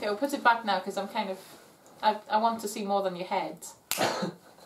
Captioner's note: finger snap